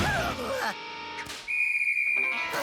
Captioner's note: groans; blows whistle